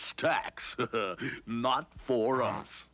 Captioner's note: chuckles